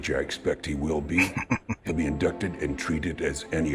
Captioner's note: chuckling